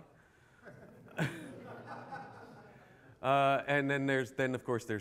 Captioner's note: laughter